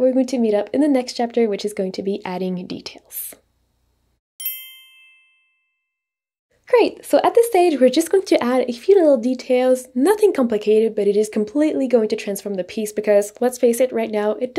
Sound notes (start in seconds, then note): 4.4 text chimes